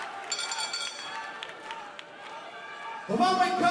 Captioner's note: cheers and applause; bell ringing